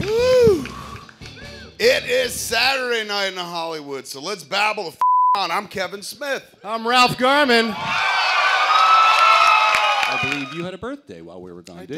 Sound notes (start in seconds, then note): 7.5 cheers